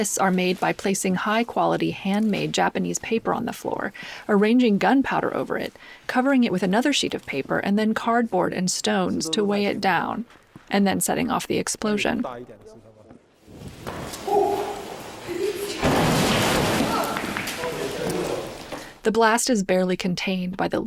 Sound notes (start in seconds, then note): 15.6 blast sound